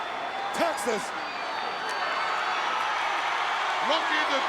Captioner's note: crowd cheering